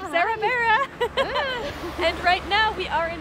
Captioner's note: laugh